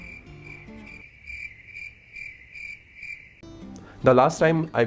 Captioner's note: crickets Chirping